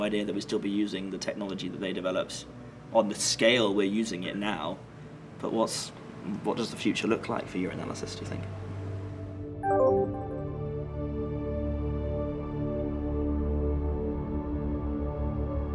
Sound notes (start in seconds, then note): 9.4 ambient music; 9.4 electronic noises